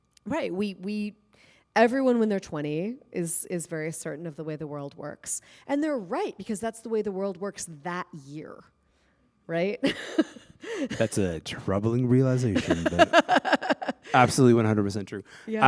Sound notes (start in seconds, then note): 9.8 laughter